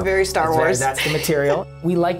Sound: laughs

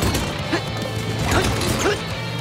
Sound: grunting

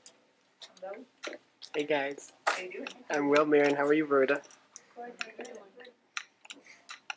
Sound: clicking noise and background chatter

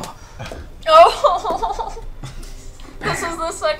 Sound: whimpers

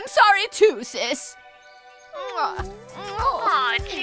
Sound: kisses

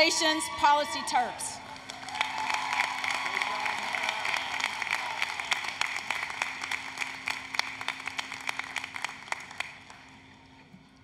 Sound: applause, Cheering

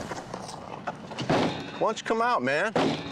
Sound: banging

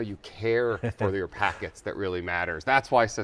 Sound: laughs

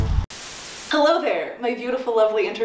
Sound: TV static

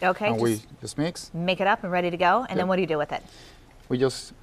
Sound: speaking native tongue

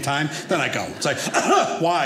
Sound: coughs

